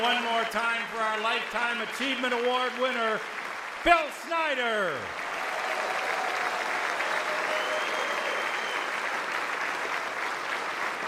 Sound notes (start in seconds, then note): 4.4 audience cheers; 5.2 audience applauds